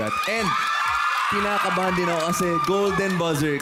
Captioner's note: cheering